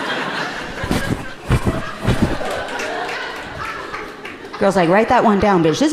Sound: microphone rustling rhythmically

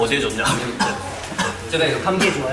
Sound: coughing

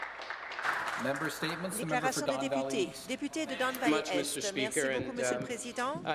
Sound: applause

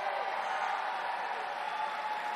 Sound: applause

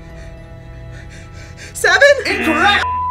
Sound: panting; buzzer blares

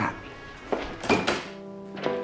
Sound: door opening

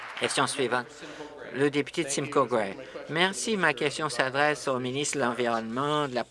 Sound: applause

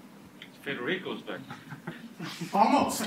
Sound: chuckles

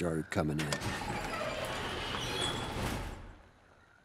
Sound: door creaking

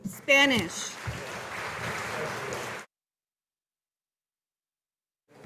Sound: audience applauding

